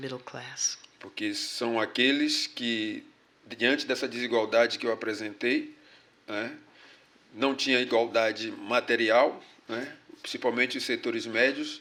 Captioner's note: speaking portuguese